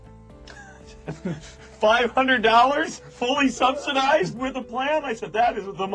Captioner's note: laughs